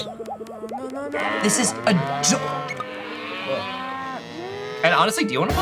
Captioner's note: cows mooing